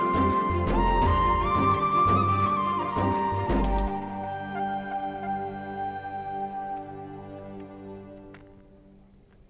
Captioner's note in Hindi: तालियाँ